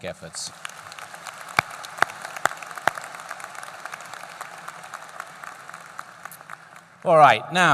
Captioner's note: applause